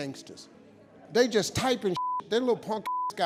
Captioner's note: beep